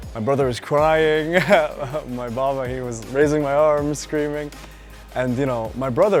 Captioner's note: laugh